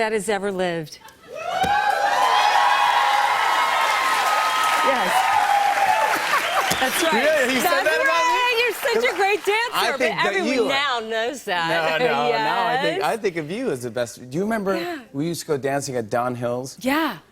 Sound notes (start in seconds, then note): 1.4 cheers and applause; 4.4 laughs